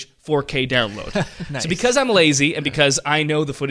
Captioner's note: laughs